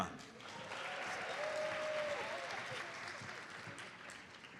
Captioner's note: audience applauds